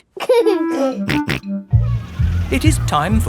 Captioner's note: giggling and snorting